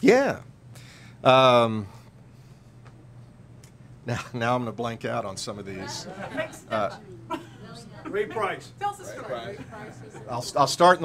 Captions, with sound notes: - Yeah, now I'm gonna blank out on some of these. - Greg, step up. (laughing) - Ray Price. - Tell us a story- - Ray Price- - I'll start